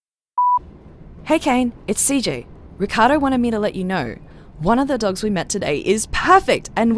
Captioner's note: BG FX: Internal train noises